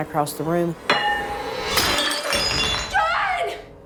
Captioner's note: plate pinging; ceramic shattering